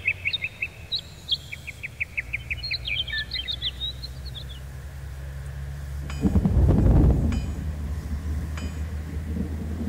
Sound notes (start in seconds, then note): 0.0 birds Chirping; 6.0 strange metal sound